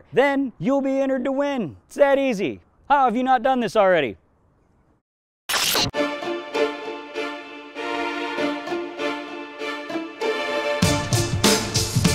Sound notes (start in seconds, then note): 5.5 static